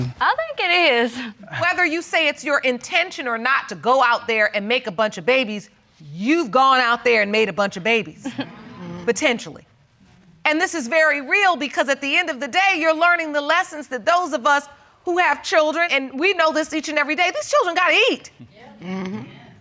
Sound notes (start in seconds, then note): 8.2 chuckling